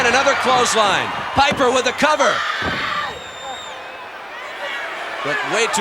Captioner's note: Sherri screaming